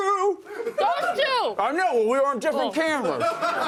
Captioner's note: laughter